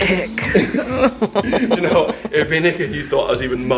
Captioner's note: laughing